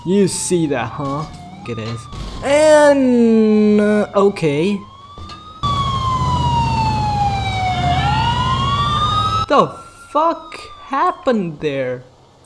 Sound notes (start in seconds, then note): 7.5 dude Screams